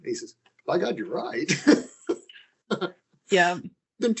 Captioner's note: laughing